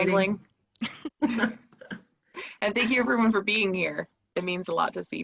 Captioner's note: laughter